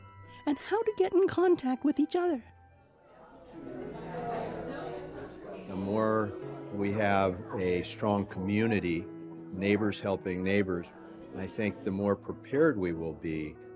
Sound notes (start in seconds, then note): 3.5 voices chattering